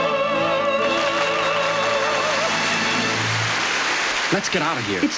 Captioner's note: crowd applauds